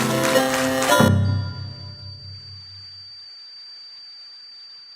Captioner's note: piano cuts off. that high pitched tone